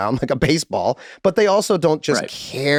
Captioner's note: Rob laughing amusingly